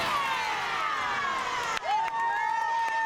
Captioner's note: cheers and applause